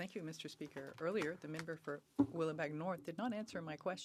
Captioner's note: speaking French